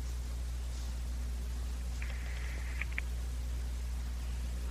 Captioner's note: line Ringing